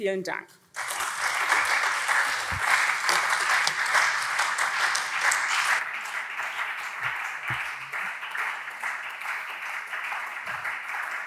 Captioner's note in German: Anhaltender Beifall SPD und CDU